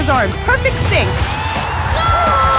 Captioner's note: crowd cheering